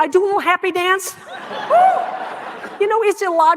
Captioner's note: audience laughing